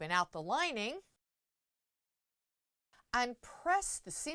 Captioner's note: no Sound Present